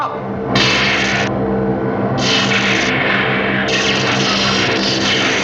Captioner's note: eletricidade crepita